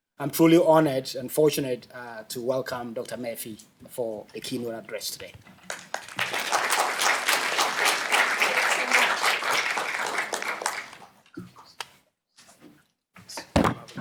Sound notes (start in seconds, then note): 5.6 applause